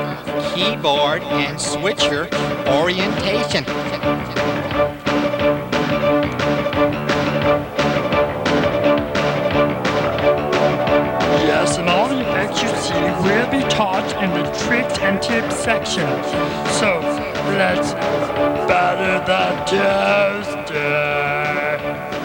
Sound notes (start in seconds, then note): 3.8 subtle juicy tongue noises